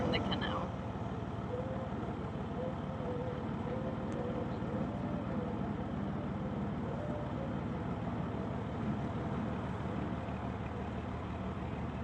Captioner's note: narrowboat engine sounds